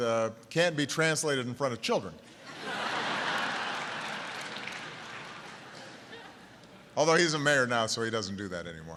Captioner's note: laughter